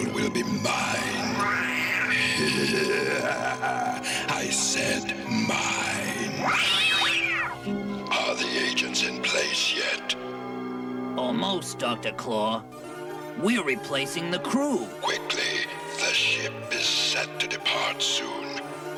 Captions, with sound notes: WILL BE MINE! HEH HEH HEH HEH HEH! I SAID MINE. - [SCREECH] - ARE THE AGENTS IN PLACE YET? - ALMOST, DR. CLAW. WE'RE REPLACING THE CREW. - QUICKLY. THE SHIP IS SET TO DEPART SOON.